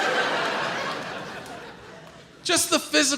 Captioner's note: audience laughs